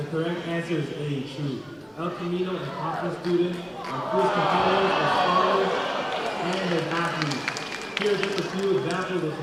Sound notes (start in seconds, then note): 3.9 crowd groaning; 7.7 smattering of applause